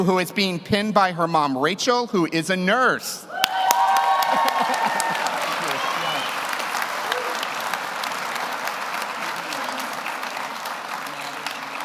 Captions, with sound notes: who is being pinned by her mom, Rachel, who is a nurse. (audience cheers) (audience applauds)